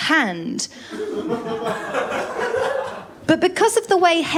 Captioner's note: laughter